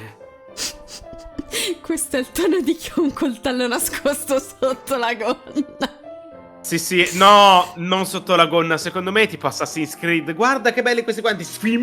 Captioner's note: sfx of a knife